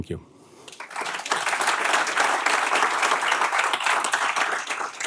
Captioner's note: applause